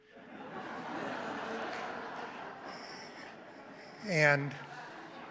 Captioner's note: audience laughs